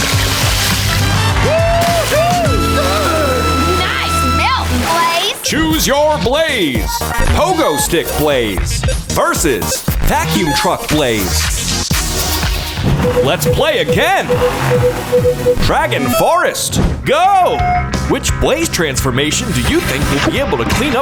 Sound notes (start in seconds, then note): 14.7 beeping